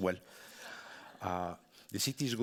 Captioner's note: audience laughing